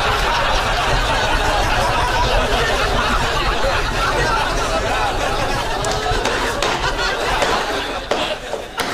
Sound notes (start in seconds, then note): 5.8 Moss stomps